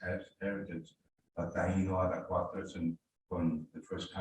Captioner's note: murmurs